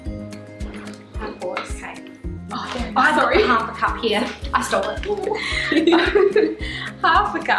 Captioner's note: both laughing